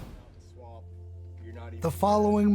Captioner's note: air whooshing; speaks quietly